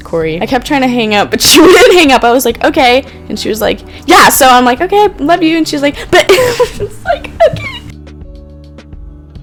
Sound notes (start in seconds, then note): 6.1 laughing